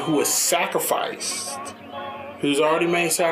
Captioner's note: none